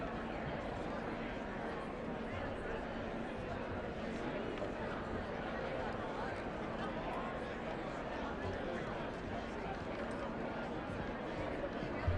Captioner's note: indistinct chatter